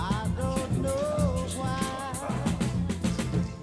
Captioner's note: indistinct chatter